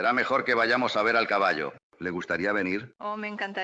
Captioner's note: chuckling